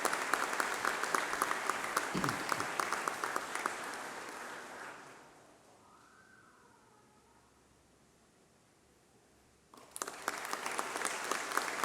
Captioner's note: applause